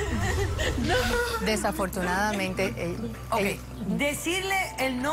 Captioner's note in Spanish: Sollozos